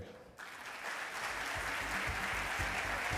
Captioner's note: applause